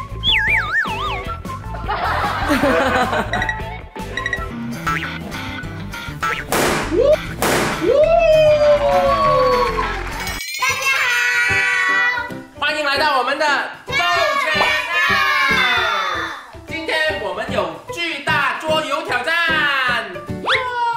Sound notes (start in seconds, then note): 8.6 clap, clap, clap!